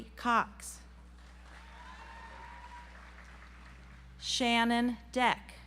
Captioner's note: audience applauds